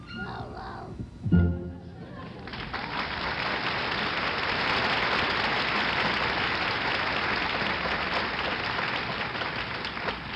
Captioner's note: applause